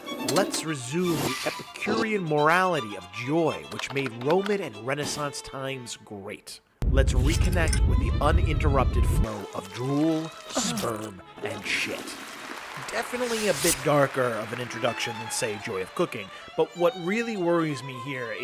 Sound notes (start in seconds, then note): 12.0 water gurgling